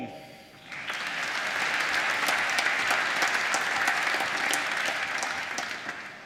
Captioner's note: applause